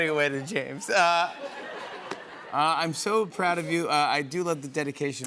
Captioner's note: laughter